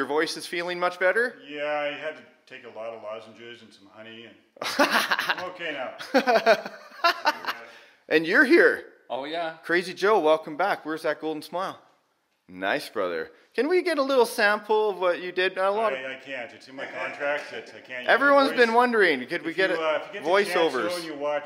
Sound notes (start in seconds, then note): 6.0 laughing